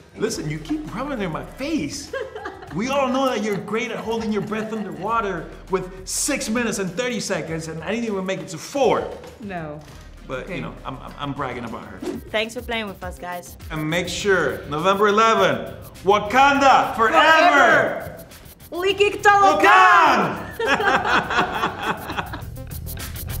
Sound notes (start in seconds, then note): 18.8 speaks foreign language; 20.3 both laugh; 23.1 dramatic music